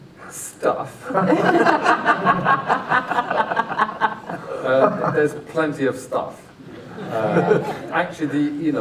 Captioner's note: laughter